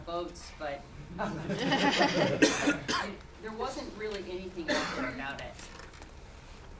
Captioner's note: cough